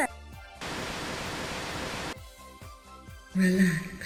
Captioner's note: static